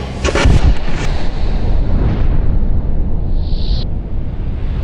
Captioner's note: cracking explosion